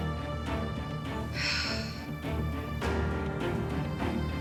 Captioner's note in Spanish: suspiros